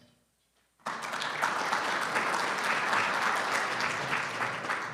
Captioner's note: audience applauding